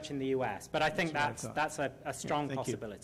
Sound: voiceover

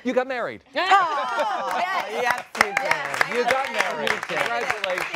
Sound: applause

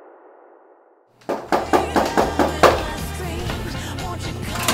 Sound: knocking

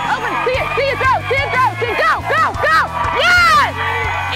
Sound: yelling

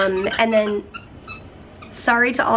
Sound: Ollie squeaking a toy

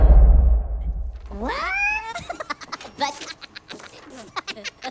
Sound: Minions giggling

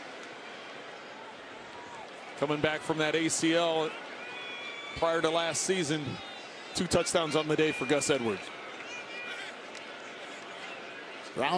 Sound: whistle blowing

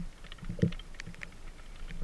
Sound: boat sounds

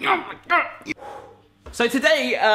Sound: panting

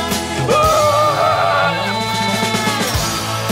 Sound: screams

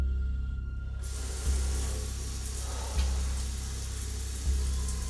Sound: ominous music; water splashing

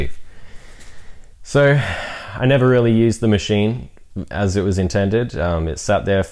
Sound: sigh

